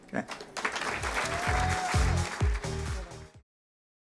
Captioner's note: applause and music